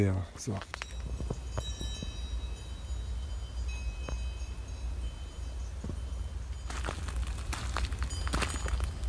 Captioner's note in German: Kuhglocken läuten